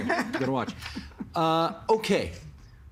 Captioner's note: laughter